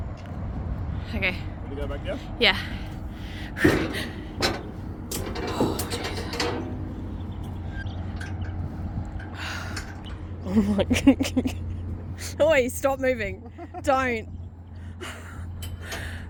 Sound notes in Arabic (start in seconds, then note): 10.4 أضحك بعصبية; 13.4 يضحك